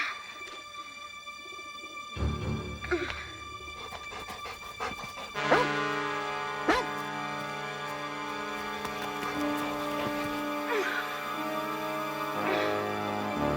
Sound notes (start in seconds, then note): 2.4 dramatic music; 6.6 dog barking